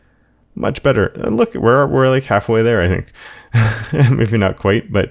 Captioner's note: laughs